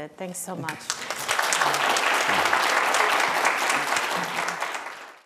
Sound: applause

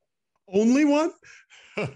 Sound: laughs

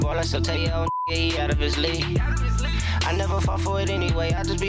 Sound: beep

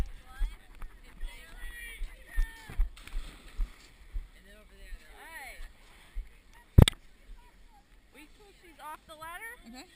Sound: background chatter

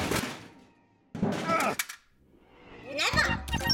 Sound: grunts

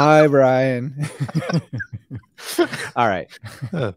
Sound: laughing

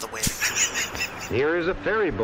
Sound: Jim wheezes in laughter

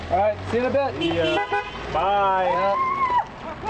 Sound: car horn honking; yelling

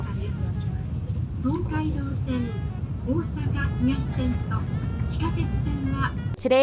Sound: announcer speaking in Japanese

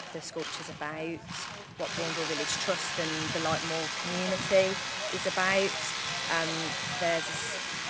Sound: drilling noise

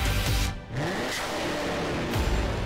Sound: engine roars

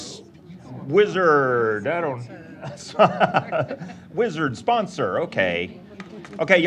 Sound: laughing

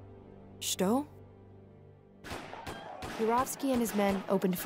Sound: speaking russian

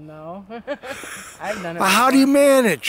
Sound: laughs

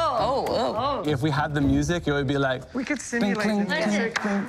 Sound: humming; rhythmic clapping

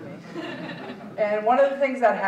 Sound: audience chuckling

